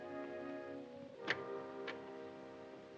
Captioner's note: door opening